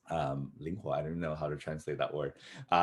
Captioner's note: speaks foreign language